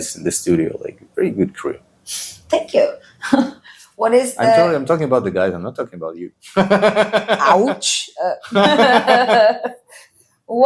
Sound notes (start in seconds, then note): 3.1 laughs; 6.6 laughs